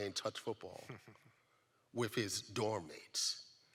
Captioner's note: laughs